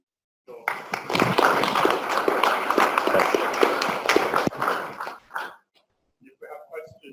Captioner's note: applause